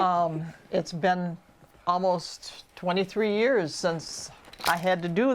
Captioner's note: toy rattles